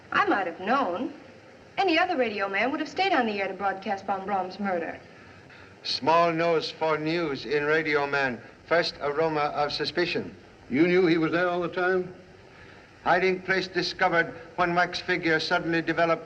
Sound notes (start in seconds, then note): none